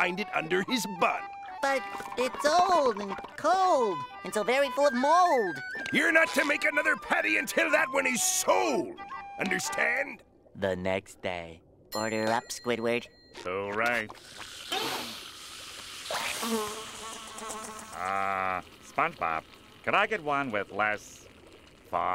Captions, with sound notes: under his bun. But it's old and cold. And so very full of mold. You're not to make another Patty until that one is sold. Understand? Order up, Squidward. Hooray. [sniffing] [buzzing] Uh... SpongeBob, can I get one with less... fog?